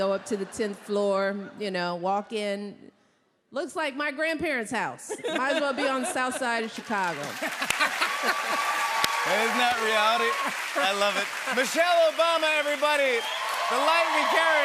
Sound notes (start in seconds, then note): 7.4 laughs